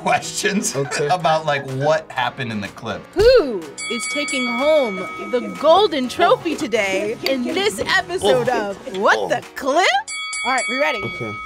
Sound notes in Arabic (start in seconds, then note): 10.0 قرع الجرس